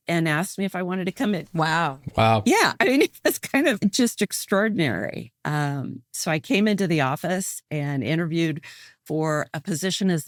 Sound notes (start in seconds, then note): 3.4 laughs